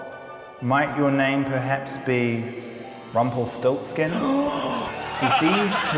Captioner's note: gasps